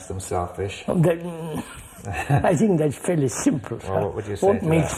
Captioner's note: laughs